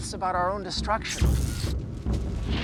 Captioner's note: buzzing and crackling